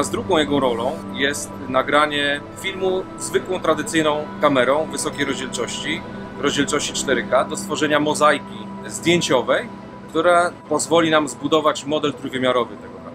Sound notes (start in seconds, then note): none